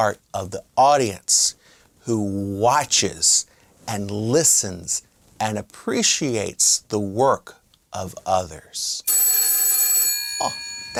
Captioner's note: phone ringing